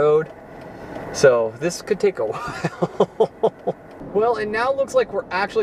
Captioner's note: chuckle